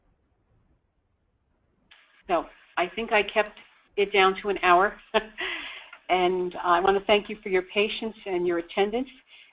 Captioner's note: laughs